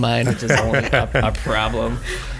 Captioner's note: laughing